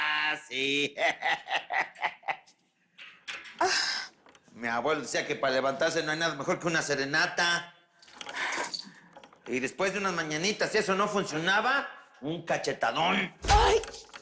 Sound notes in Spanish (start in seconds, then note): 0.0 Carcajadas